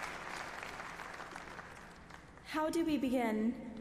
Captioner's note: applause